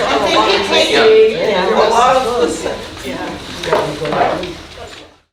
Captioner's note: audience chatting